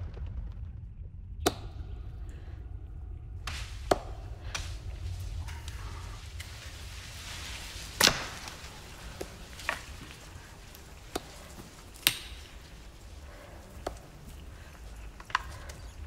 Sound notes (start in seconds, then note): 1.6 twigs breaking